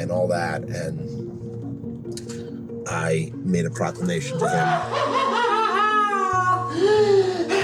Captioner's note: cackles maniacally